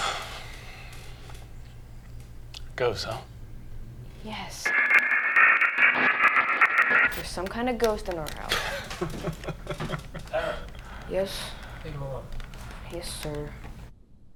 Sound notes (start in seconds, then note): 4.6 buzzing; 8.6 laughs